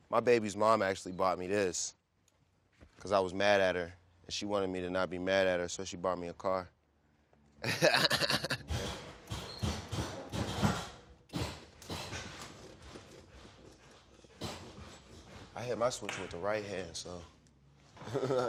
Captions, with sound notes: My baby's mom actually bought me this 'cause I was mad at her, and she wanted me to not be mad at her, so she bought me a car. [laughs] [hydraulics clanging and whirring] I hit my switch with the right hand, so [laughs] yeah.